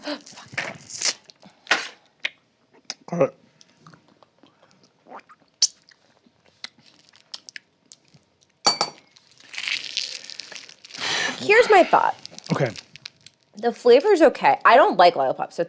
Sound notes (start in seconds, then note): 0.0 gasps; 8.7 lollipop clangs